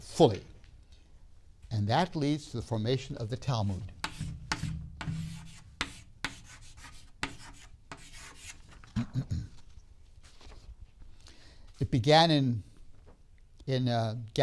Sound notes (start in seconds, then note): 4.0 chalk writing; 8.9 clears throat